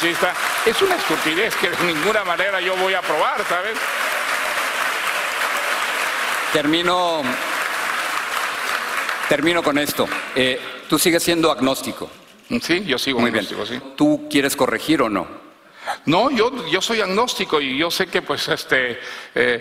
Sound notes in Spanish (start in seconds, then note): 4.1 aplausos